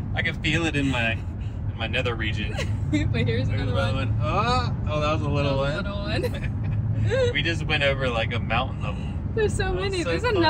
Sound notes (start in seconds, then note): 0.0 both laughing; 3.1 laughs; 6.2 both laughing